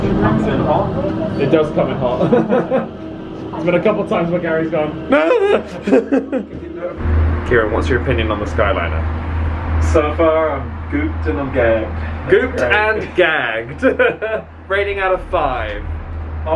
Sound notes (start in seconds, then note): 2.1 laughs; 13.7 laughs